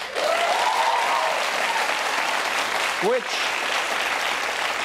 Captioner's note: audience applauding